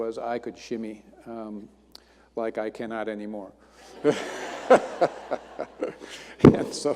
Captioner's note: laughter